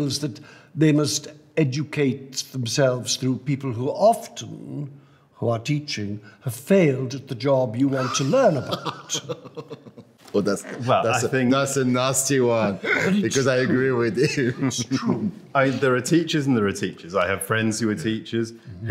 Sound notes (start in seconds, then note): 7.9 man laughing